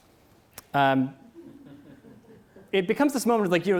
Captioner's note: audience laughs